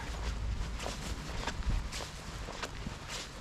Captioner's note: foot thumping